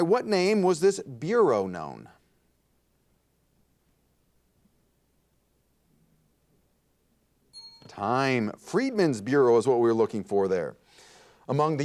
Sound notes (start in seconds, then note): 7.5 bell rings